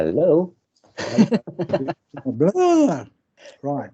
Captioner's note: audience Laughs